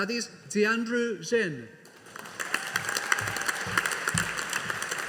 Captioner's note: audience applauding